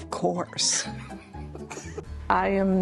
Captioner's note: laughs